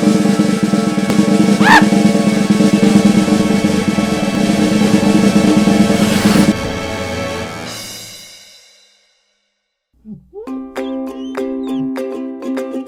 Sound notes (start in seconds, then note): 1.6 man yelping; 6.6 cymbal crash; 10.0 whimsical children's music